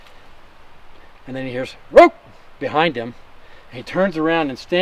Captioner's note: barks